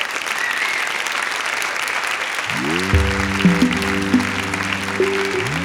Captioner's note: applause